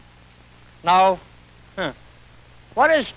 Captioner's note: laughs